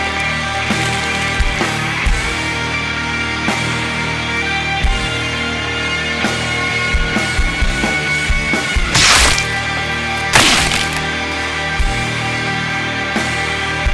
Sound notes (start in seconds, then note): 0.1 tense rock music continues; 8.9 flesh squelches